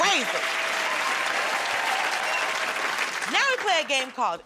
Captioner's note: cheers and applause